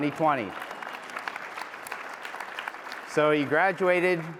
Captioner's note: applause